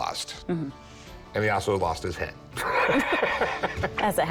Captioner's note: laughs